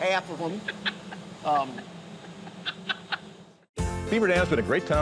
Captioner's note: laughing